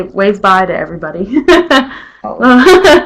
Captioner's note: chuckles